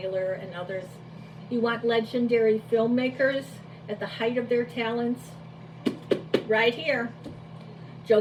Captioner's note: taps book